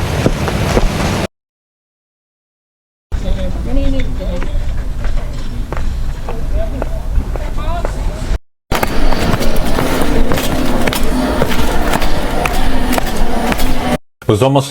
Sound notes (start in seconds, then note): 1.5 sound of city